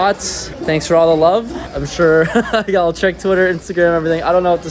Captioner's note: chuckles